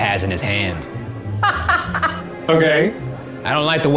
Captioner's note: laughs